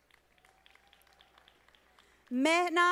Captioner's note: audience applauding